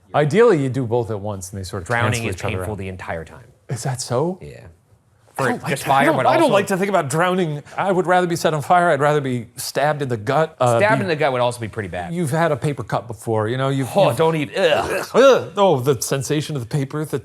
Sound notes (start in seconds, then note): 14.5 both gagging